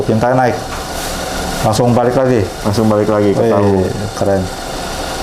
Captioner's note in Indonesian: suara mesin printer